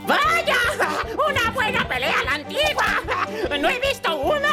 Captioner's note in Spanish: carcajadas